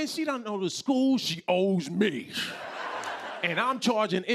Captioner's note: laughter